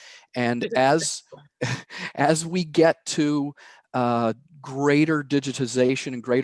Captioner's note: laughs